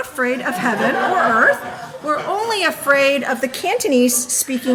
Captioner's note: audience laughing